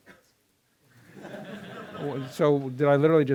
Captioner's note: laughter